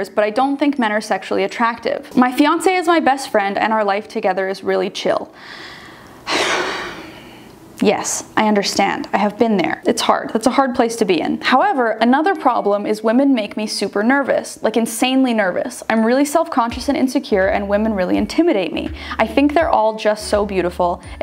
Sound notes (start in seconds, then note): 6.2 sighs